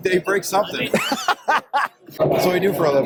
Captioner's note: laughing